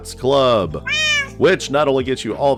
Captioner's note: meow